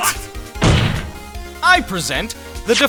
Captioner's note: slam